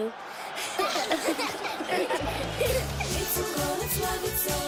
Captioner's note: laughing